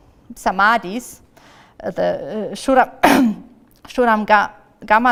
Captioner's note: coughs